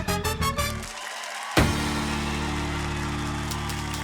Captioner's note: cheering and applause